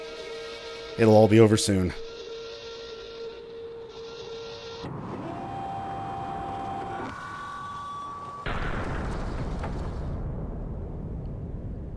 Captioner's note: door closes, speaker feedback, Hellseeds detonate